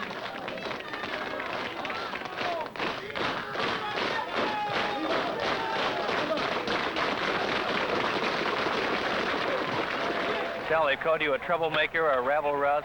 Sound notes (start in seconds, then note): 1.6 crowd clapping in rhythm; 5.3 clapping grows faster